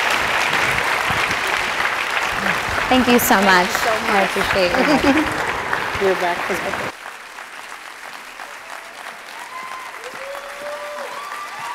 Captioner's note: applause; cheers and applause